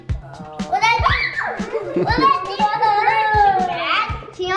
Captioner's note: laughing